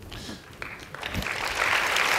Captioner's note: applause